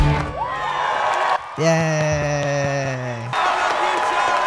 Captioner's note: clapping